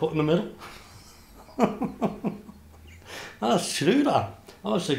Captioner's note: laughs